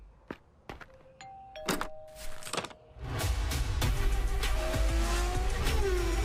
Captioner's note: doorbell